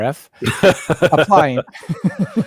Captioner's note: laughing